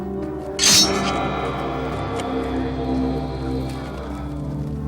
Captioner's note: sword clanking